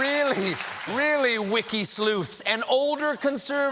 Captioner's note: applause